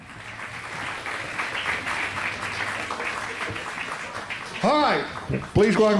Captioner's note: crowd applauds